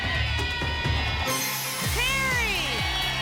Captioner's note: cheering; ping